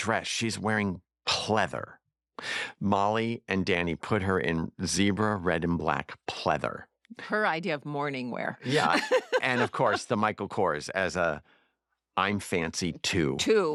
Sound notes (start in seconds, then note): 8.6 laughs